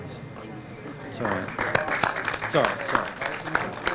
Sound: applause

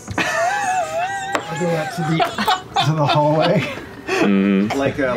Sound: laughter; laughing; laughter

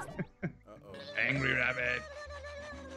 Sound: laugh

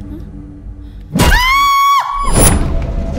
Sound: scream

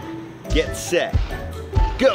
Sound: dinosaur stomp

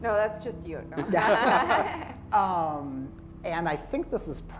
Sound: laughter

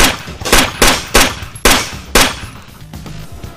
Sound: gun firing

